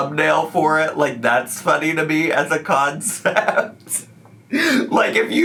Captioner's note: laughs